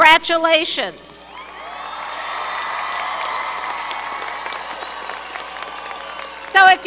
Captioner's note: applause